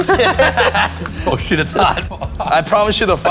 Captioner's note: laughs